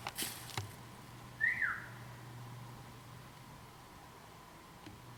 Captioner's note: whistles